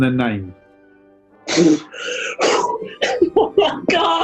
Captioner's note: splutters and laughs